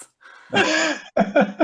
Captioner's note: laughs